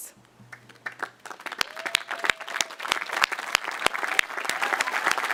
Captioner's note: audience applauding